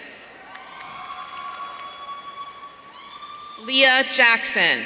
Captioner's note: audience cheering